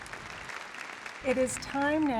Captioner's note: audience applause